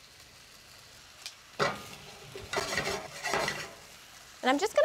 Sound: pan sizzling

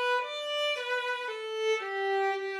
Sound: none

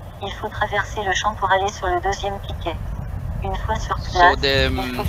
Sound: speaking in foreign language

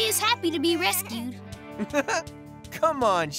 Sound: laughing

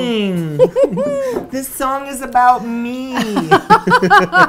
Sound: laughs; laughs

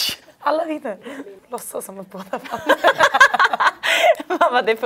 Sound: both laugh

